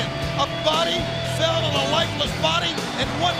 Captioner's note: bell ringing